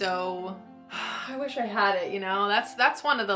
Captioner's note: sighs